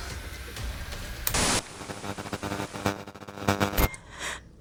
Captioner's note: screen whooshing